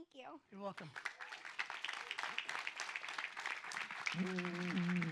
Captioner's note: audience applauds